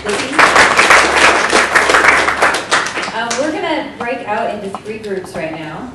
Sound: applause

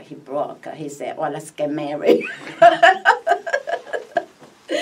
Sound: laughs

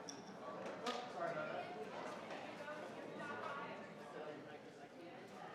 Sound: crowd chattering continues

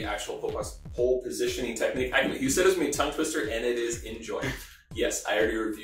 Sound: laughing

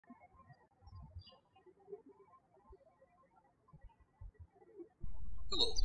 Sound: birds chirping

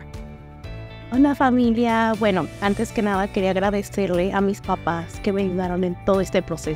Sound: woman with red hair speaking Spanish

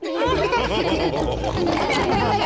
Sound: chuckles; all laughing

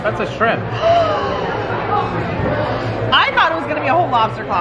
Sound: gasps

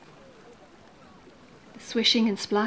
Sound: people talking in background; water lapping quietly

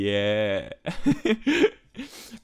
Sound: laughing

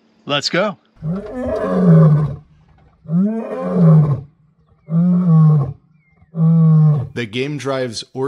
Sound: male lion asserting his dominance

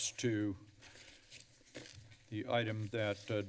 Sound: rustling paper sound

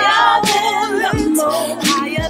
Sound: ohhhh

